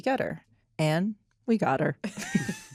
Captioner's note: all chuckling